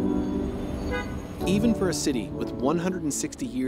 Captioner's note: soft music; car horn beeping